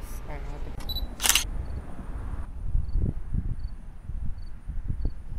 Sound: camera shutter clicking

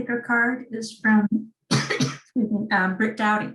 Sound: coughs

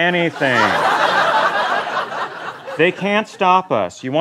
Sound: laughter

